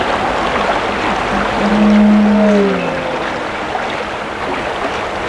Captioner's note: distorted noise; running water continues